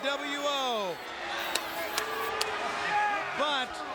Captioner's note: attendee applauding